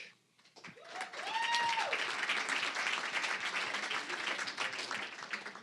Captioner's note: applause, cheering; applause